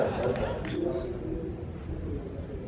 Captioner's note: laughter